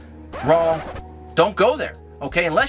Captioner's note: record scratches